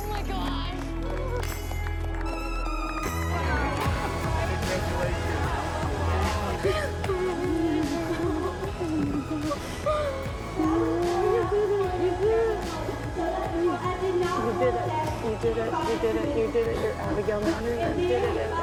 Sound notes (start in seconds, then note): 7.0 sobs; 10.0 both cry